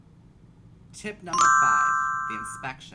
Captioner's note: chiming